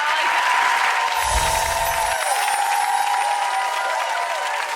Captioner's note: audience cheers; sparkle chimes